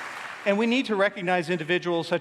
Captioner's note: applause